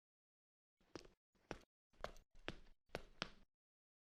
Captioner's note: footsteps tapping